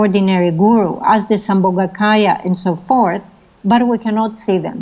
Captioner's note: speaking foreign language